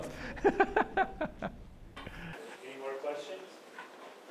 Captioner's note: laughs